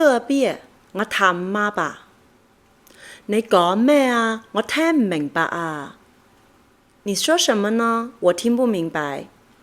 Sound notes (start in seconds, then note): 0.0 is speaking in her native dialect; 3.2 is speaking in Cantonese; 6.9 is speaking in Mandarin Chinese